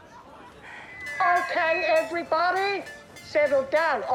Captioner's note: feedback squeals